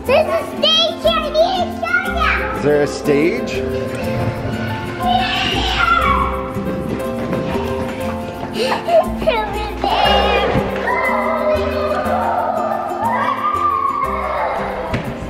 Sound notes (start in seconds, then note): 11.2 girls twittering